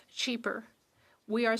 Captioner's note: speaking French